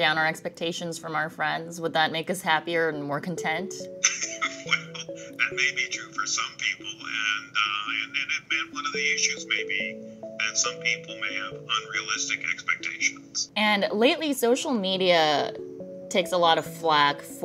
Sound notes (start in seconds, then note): 4.0 laughing